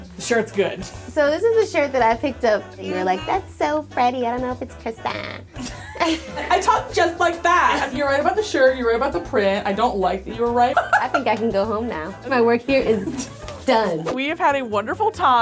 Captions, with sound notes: - The shirt's good. - So this is the shirt that I picked up and you were like, that's so Freddie. I don't know if it's Kristin. - (laughs) I talk just like that. You were right about the shirt. You were right about the print. I don't like that you were right. (laughs) - I think I can go home now. My work here is done. - We've had a wonderful time.